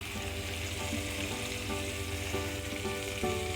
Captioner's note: sizzling